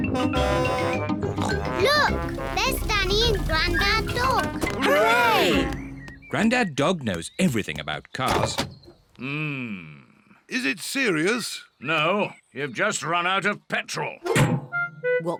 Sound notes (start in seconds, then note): 0.0 horn blares; 1.4 snorts